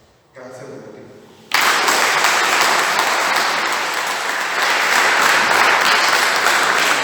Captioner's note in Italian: Applauso